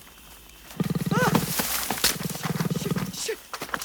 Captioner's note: growling